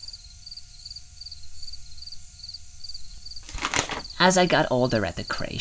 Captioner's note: paper rustling